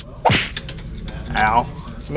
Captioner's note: metal clanking; wire thuds